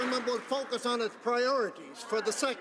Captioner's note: some Applause